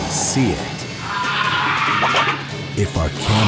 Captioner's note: shrieks